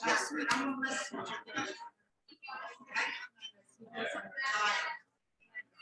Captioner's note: people chattering indistinctly